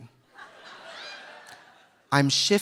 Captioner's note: audience laughing